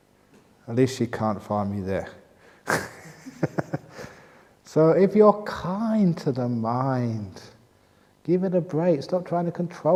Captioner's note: laughs